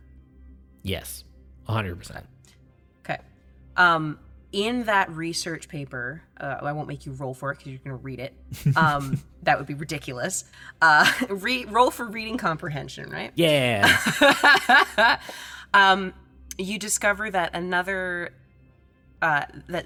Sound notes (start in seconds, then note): 8.7 chuckles; 13.7 laughs